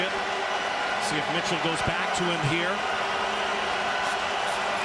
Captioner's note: crowd Noise